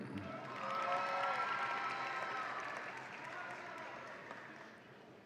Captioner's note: audience applauds and cheers